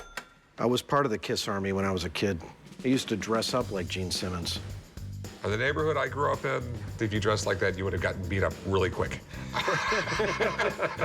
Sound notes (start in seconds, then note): 9.4 laughter